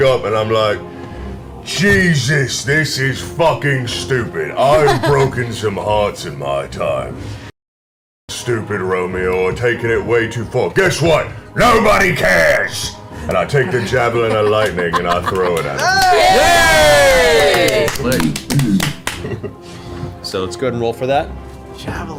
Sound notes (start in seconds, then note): 14.9 all cheer